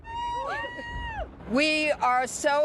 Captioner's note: women cheer